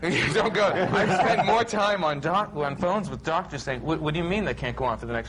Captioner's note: laughs